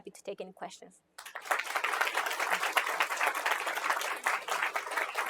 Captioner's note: applause